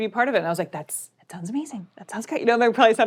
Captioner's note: whispering